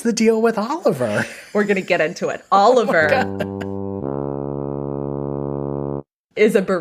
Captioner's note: sad trombone sound